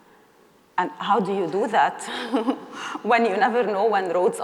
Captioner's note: chuckles